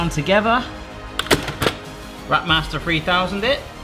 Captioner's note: clunking